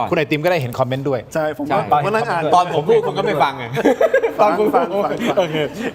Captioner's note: laughs